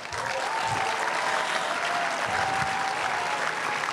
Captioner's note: crowd cheering and applauding